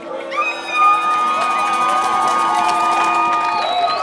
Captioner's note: crowd cheering